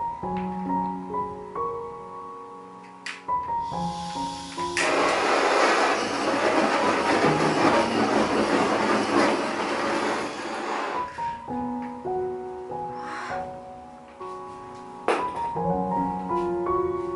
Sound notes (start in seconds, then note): 13.0 deep sigh